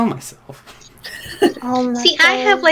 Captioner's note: cruel laughter